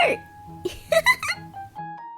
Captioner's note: laughs